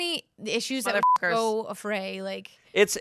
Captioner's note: beep